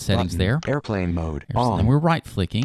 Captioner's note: electronic Voice